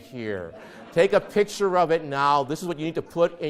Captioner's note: audience laughs